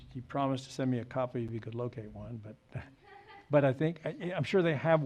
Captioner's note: woman laughs